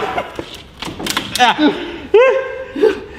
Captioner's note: crack crack